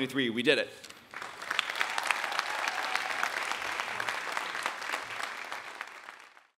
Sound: audience clapping and cheering

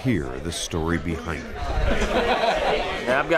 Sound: crowd chattering

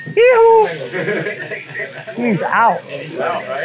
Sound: laughing

